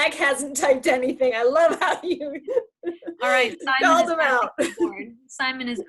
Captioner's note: laughs